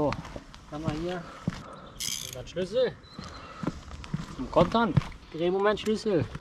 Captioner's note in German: klackern